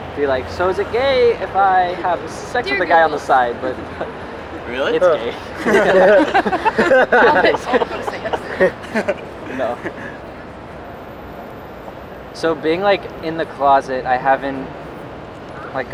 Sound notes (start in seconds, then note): 5.8 laughing